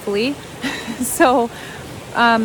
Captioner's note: narrators laughs